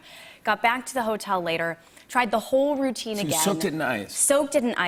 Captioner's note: none